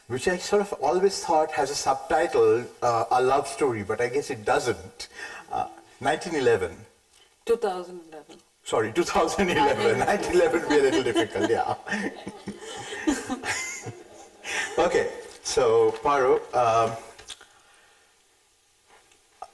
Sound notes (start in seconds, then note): 11.2 chuckles; 13.0 light chuckling